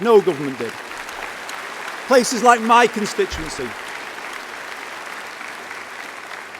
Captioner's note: applause